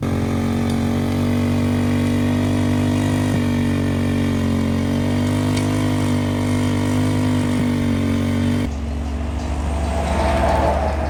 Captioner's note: engine roaring